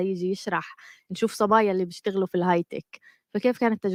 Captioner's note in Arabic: لغة أجنبية